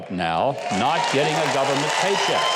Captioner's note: audience applauding